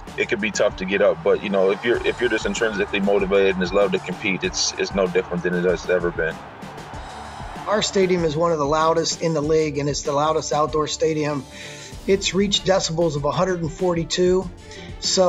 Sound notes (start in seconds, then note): 6.9 fans cheering